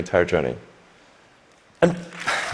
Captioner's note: applause